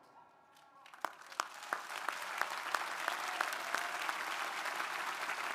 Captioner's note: crowd applauding